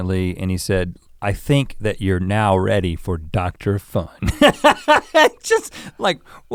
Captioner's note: laughs